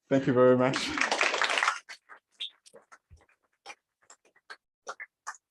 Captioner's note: applause